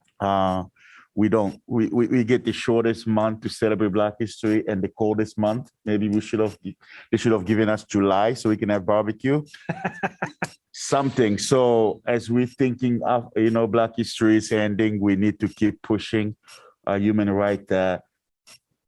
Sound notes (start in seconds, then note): 9.5 laughter